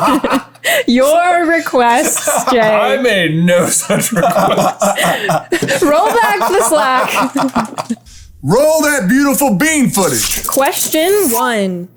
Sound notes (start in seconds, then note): 7.1 laughter